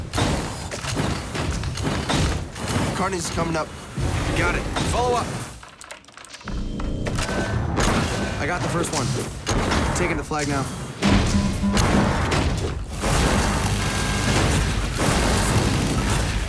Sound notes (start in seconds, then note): 0.0 guns firing; 5.7 keyboard clicking; 7.2 guns firing; 11.1 alarm beeping